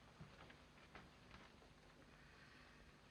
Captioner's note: none